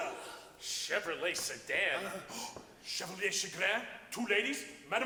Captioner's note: gasps